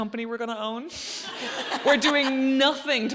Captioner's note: audience laughs